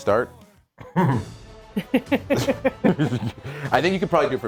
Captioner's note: laugh